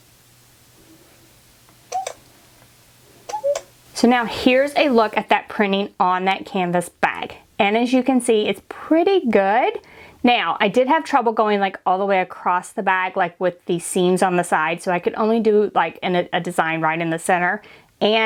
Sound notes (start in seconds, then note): 3.3 beeping